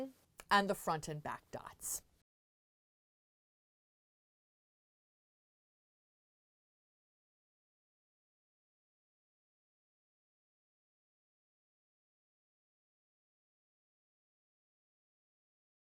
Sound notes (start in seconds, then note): 2.2 no Sound Present